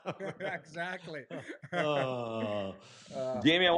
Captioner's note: laughter